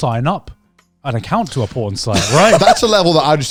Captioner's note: laughing